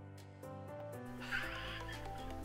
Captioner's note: giggle